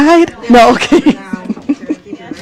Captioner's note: laughs